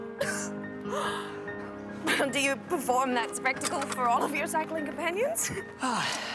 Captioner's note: bicycles crashing